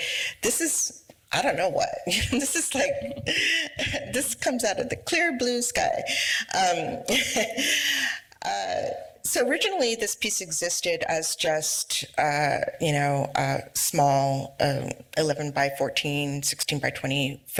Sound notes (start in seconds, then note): 6.7 laughs